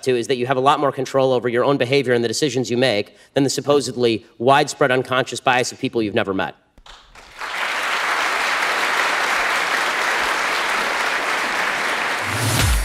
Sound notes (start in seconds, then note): 6.8 audience applause